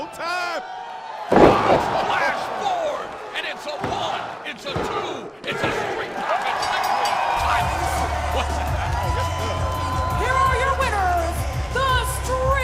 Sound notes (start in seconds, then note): 6.5 bell ringing; 7.3 crowd cheering